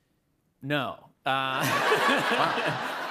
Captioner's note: laughter